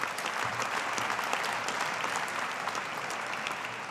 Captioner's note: audience applauding